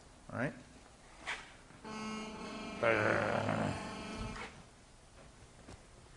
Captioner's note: buzzing